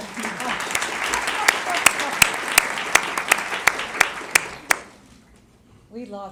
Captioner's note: applause